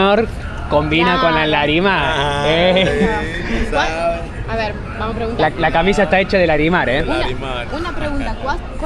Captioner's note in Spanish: risas